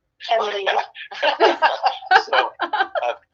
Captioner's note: all laugh